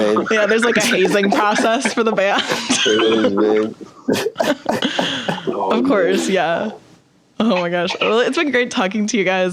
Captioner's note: all laugh